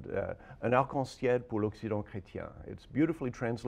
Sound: speaks French

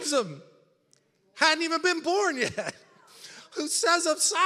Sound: laughs

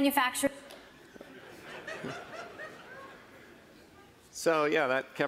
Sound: laughing

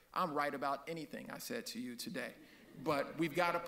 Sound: audience laughs

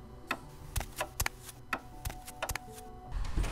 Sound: footsteps

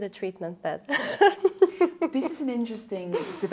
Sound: laughing

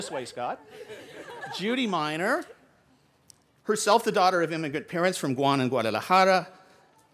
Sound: laughter

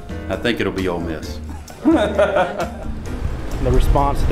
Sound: officer laughs

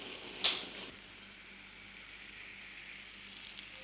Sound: bubbling

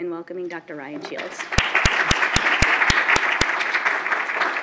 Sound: applause

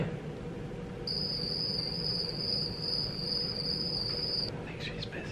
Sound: crickets chirping; whispering

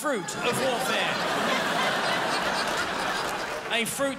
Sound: crowd laughs

